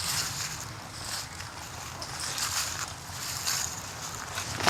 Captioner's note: footsteps